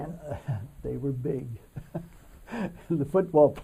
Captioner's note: laughs